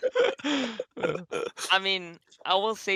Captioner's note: laughs